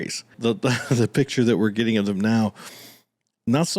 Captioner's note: small laugh